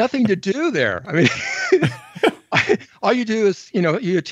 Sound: both laugh

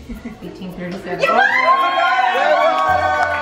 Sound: cheers

